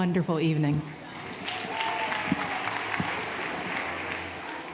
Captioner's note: applause